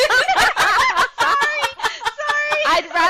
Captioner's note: laughter